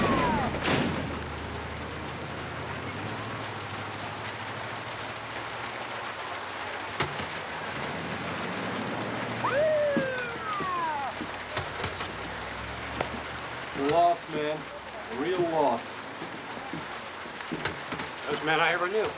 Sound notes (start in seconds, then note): 8.2 siren wailing